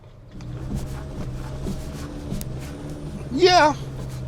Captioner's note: engine whirring